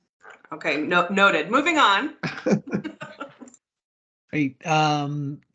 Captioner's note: speakers laughing